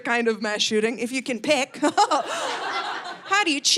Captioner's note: laughs